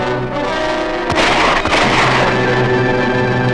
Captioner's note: gun shots ring out!